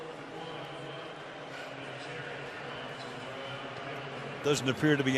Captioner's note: pa announcement